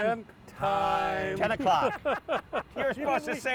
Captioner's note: laughing